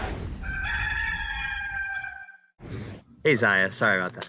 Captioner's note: cock crows